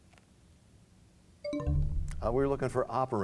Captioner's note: bell chimes, time expires